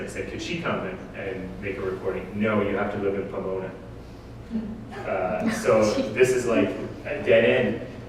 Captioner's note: audience: Laughter